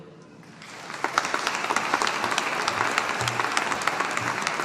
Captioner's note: audience applauding